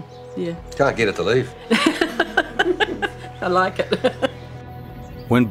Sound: laughs

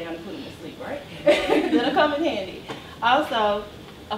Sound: laughs

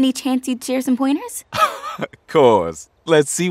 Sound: chuckles

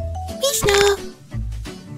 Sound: agressive bone cracking

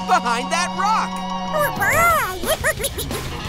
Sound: squeaking

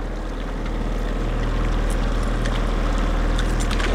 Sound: boat motor purrs

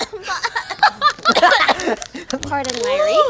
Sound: laughing; coughing

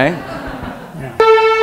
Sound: laughter

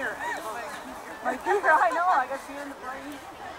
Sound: laughing

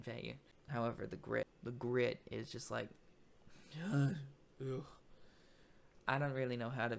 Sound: groans

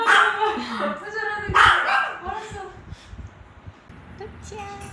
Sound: Keeps barking at Sis LOL

